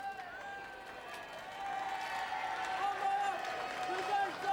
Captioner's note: crowd cheering